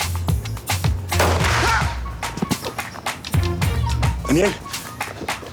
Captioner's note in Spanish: Disparo; Grito